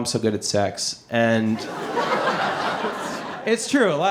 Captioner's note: audience laughing